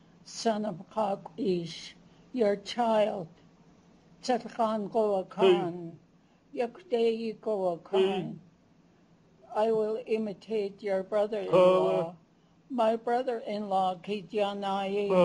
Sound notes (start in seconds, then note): 1.0 non-english; 4.1 non-english speech; 11.5 non-english speech; 13.8 non-english speech